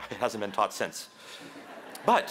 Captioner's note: laughter